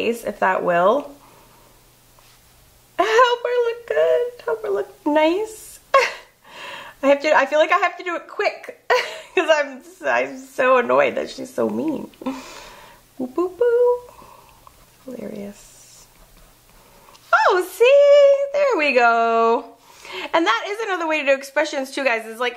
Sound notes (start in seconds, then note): 5.9 laughs